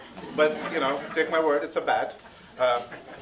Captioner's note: audience laughing